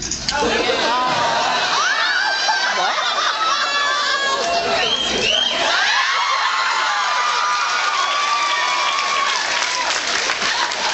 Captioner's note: laughs and screams